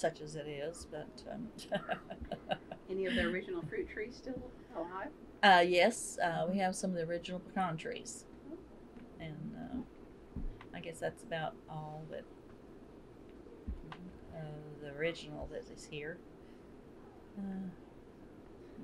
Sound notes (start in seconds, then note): 1.5 laughs